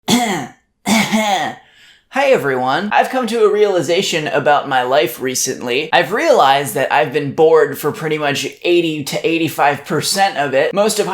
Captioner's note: coughs